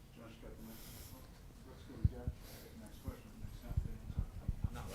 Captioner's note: interviewers chatter